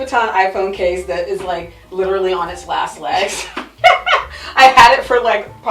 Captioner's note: laughs